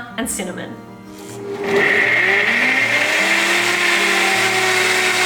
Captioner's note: blender whirring